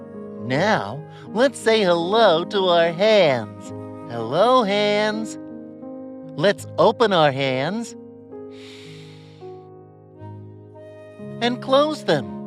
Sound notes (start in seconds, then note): 8.5 breathes deeply